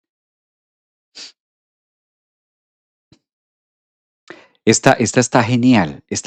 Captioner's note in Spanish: resoplido